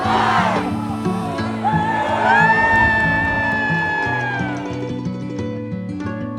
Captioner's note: cheers from a very cold crowd